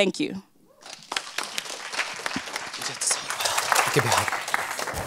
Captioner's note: applause